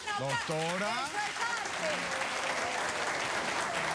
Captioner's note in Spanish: aplausos